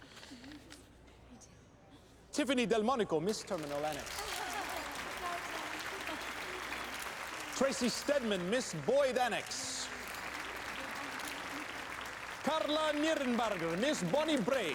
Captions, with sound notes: TIFFANY DELMONICO! MISS TERMINAL ANNEX. [APPLAUDING] TRACY STEADMAN, MISS BOYD ANNEX! CARLA NIRNENBARGER, MISS BONNIE BRAE.